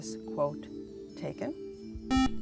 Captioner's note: buzzer